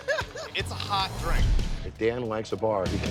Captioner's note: bartender laughing